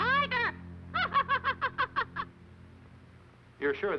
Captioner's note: laughing